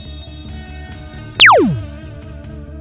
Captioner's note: zap